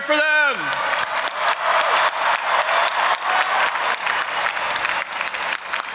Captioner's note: audience applauding and cheering